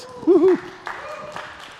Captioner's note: applause